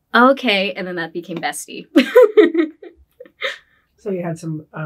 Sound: laughs

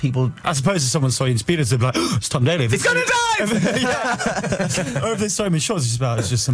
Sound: gasp

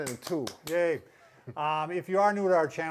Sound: hands clapping

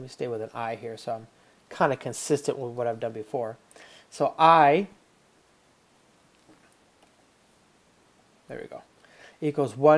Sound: pause

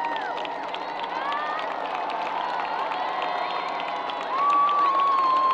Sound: people cheering and applauding

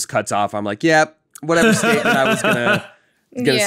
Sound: laughing

